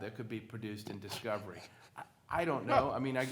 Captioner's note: laughs